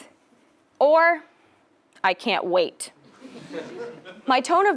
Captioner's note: laugh